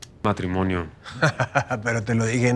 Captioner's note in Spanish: Risas